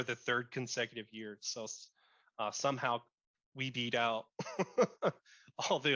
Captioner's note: laughs